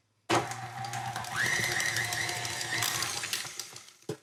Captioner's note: mixer whirring